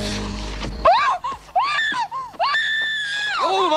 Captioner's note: screaming